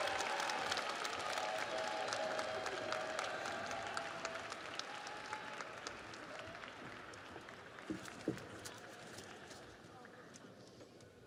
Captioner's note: audience cheers; audience applauds